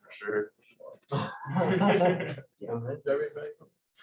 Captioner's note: laughter